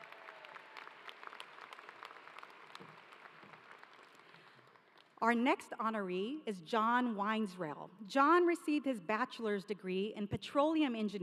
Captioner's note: applause